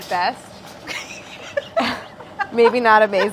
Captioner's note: laughs